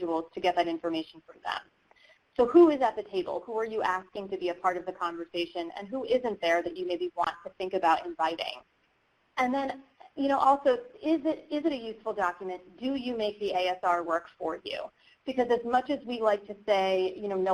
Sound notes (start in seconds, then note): none